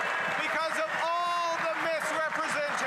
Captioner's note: applause